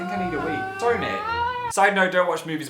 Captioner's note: is still screaming on the back ground